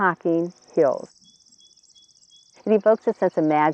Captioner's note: bird sounds